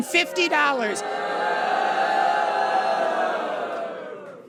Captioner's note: audience boos